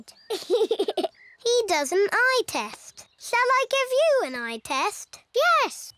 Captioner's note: laughs